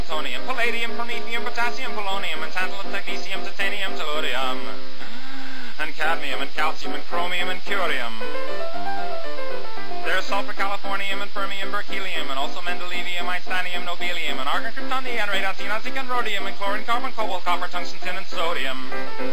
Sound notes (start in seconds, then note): 4.8 deep breath; 8.3 piano flourish